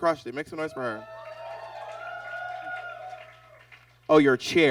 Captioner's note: audience cheers